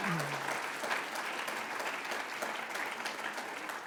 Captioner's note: applause